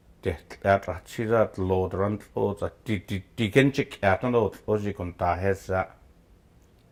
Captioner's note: speaking Gwich'in